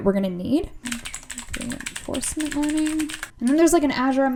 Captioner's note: keyboard clicking